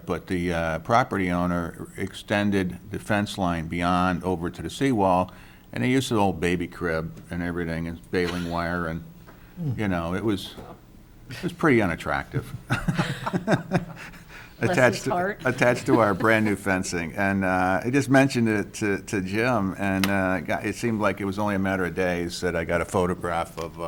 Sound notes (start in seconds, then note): 12.6 laughs